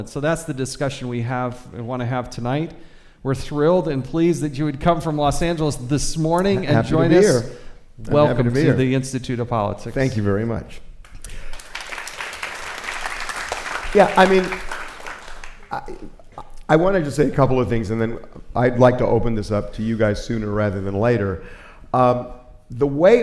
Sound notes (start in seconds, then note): 11.1 applause